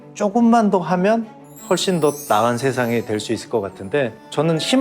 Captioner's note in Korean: 반짝이는 효과음